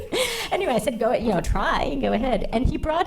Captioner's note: laughing